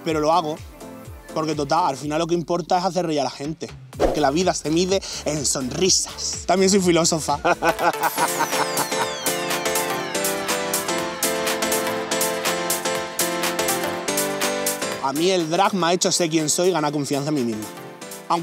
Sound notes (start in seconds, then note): 7.4 laughs